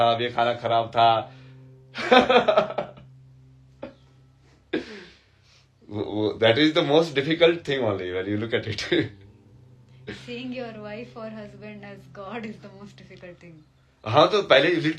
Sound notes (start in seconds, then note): 1.9 हंसी; 5.9 नाक से की जाने वाली आवाज़